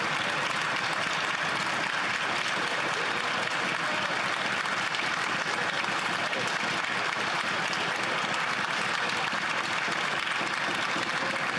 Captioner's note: applause